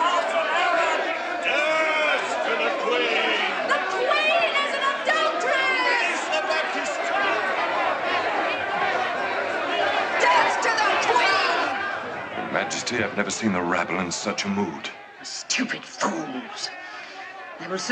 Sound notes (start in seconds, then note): 7.8 crowd shouting